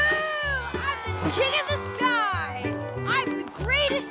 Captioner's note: gasps